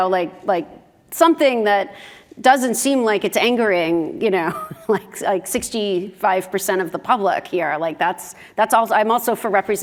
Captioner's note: laugh